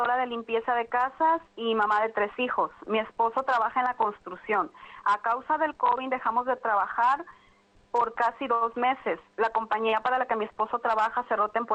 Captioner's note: speaking spanish